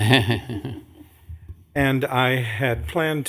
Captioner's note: laughter